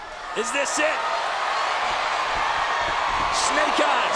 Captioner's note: crowd cheering